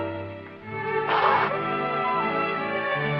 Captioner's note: sobbing